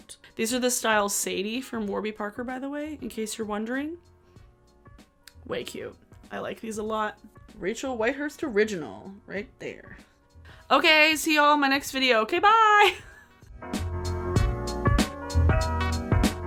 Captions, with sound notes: These are the Style Sadie from Warby Parker by the way, in case you're wondering. Wake you. I like these a lot. Rachel Whitehurst original, right there. Okay, see y'all in my next video, okay, bye (laughs). (upbeat music)